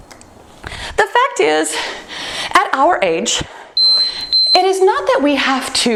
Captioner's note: timer beeps